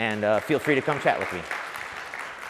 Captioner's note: applauds